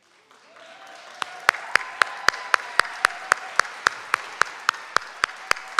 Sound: audience clapping

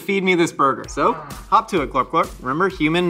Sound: Glorp-Glorp exclaims

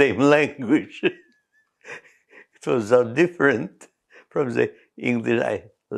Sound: laughs

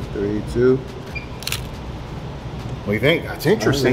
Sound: shutter snaps

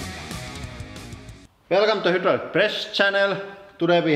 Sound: heavy accent

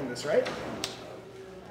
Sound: snap

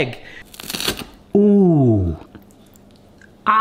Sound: crunching

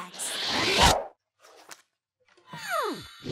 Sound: dramatic whooshing

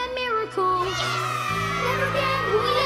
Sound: children cheer

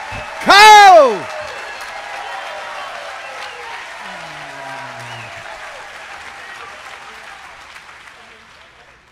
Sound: audience applauds; audience applaud continues

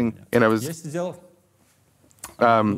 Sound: Dud clicks tongue in disapproval

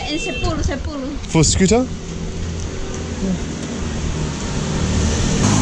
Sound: speaking in foreign language

